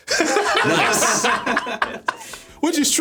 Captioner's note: everyone laughing